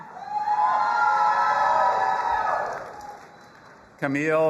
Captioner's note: audience cheering